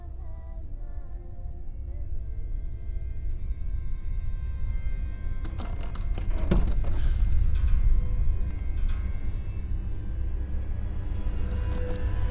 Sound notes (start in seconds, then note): 5.4 door creaking; 6.9 gasps